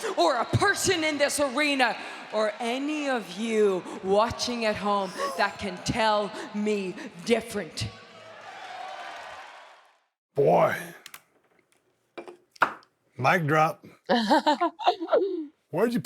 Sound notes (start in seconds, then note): 7.9 audience cheering; 14.1 Becky laughing